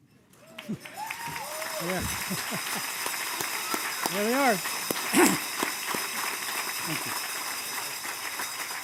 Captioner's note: cheers and applause